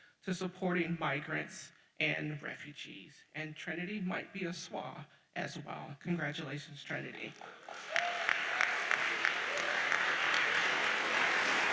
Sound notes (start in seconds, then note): 7.4 audience applauds